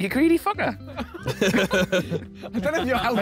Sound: laughter

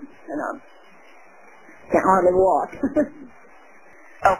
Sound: chuckling

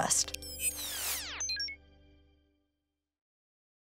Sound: electronics beep

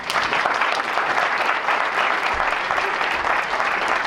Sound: applause

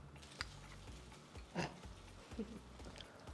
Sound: chuckles

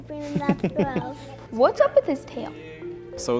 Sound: laughter

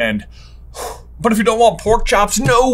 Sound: sighs

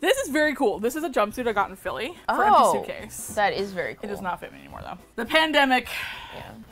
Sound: sighs

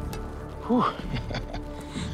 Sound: chuckles

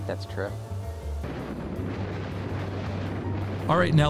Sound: car engine

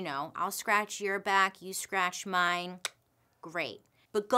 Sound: clicks tongue

